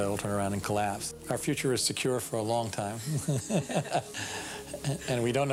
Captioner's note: laughs